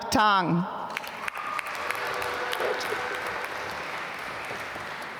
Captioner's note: applause